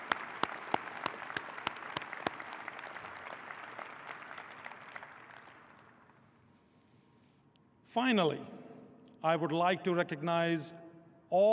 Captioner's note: applause